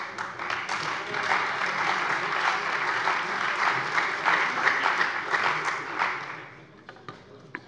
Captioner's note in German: Beifall bei der CDU und dem BÜNDNIS 90/DIE GRÜNEN